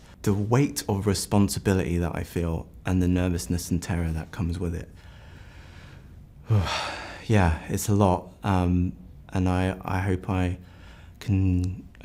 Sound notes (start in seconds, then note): 6.4 sighs deeply